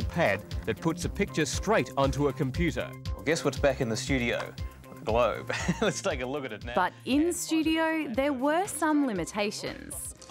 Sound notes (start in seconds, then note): 5.4 laughs